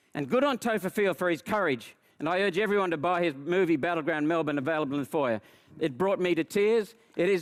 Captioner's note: none